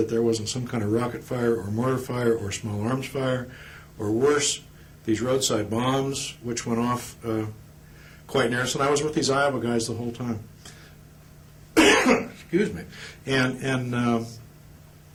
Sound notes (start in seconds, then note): 11.7 cough